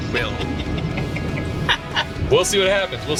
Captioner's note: both laughing